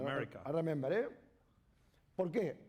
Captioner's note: speaking spanish